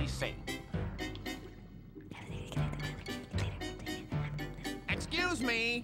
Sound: whispering

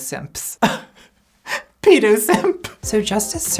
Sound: laughs

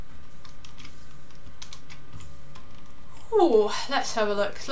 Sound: keyboard clicking

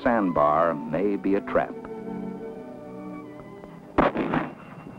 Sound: gunshots

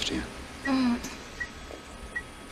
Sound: Meg murmurs

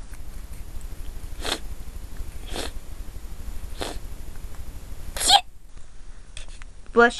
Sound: he sniffles three times and then sneezes

